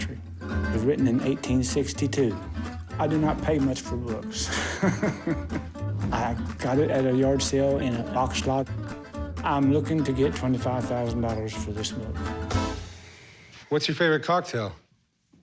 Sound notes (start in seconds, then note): 4.1 laughs